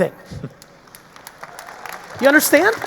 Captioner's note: audience applauding